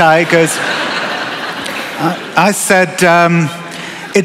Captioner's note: laughter